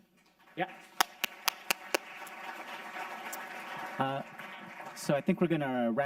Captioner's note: audience clapping